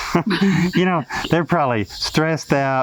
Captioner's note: chuckling